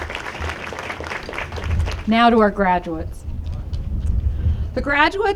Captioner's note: applause